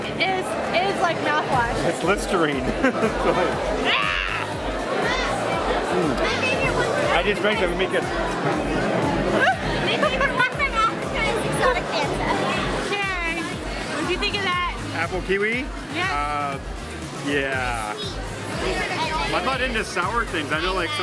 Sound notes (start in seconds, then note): 2.6 laughing; 9.2 laughing